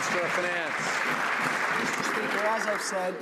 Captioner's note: some Applause